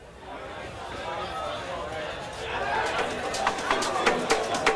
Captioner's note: crowd chattering; rhythmic dance music